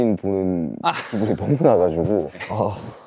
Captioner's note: haha